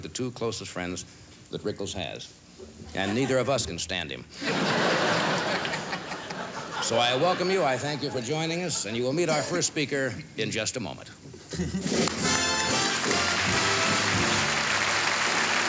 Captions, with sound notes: the two closest friends that Rickles has, and neither of us can stand him. So I welcome you, I thank you for joining us, and you will meet our first speaker in just a moment. [APPLAUSE]